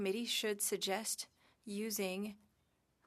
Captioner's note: speaking French